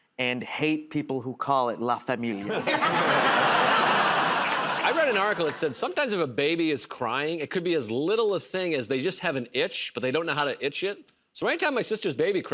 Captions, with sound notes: and hate people who call it"la familia". [ Laughter ] -I read an article that said sometimes if a baby is crying, it could be as little a thing as they just have an itch, but they don't know how to itch it. So any time my sister's baby cries,